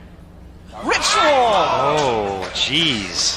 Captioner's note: crowd exclaims